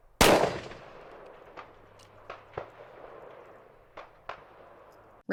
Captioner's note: gunfire